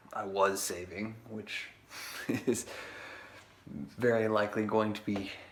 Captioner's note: laughs